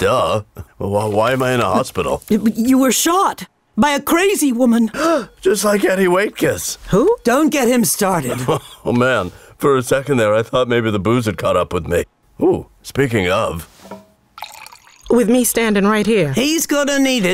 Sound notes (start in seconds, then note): 4.9 gasps; 8.3 laughs